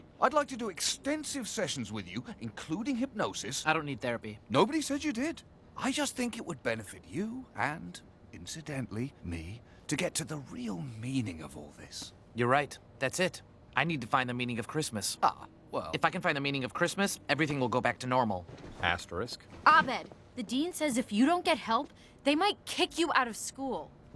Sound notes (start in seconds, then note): none